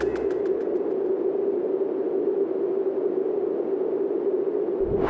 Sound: noise spike

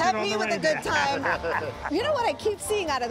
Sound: both laugh

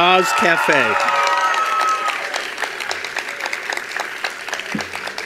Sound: attendees applauding

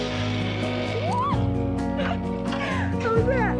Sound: laughs

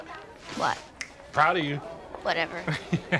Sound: snaps fingers

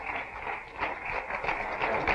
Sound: applause

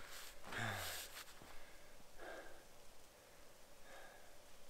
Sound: sighs

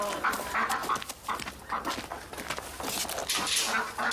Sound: ducks calling

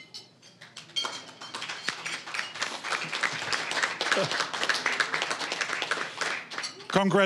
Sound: applause

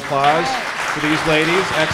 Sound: audience applauds

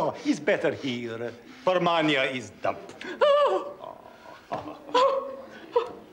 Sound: sobs

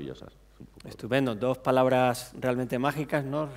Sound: speaking spanish

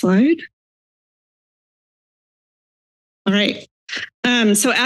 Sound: silence

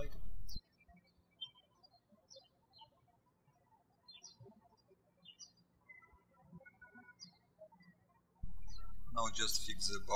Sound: bird chirping

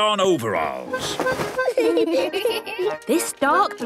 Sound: giggling

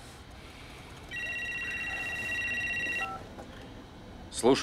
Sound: phone rings

